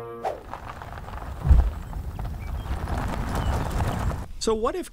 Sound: car engine revving

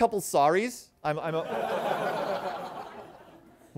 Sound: laughter

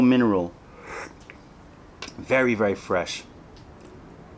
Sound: sips tea

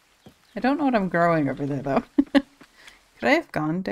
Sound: laughs

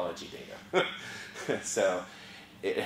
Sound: laugh

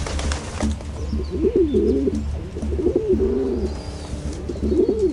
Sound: pigeon cooing

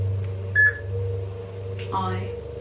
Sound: loud beeping

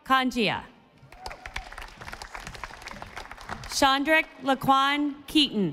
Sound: audience applauding

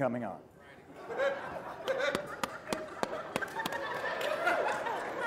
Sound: laughter

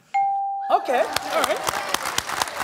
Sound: bell dings; applause

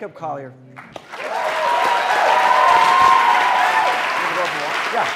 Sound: applause

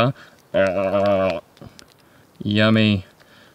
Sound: tongue imitations

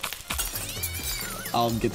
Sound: cat meowing

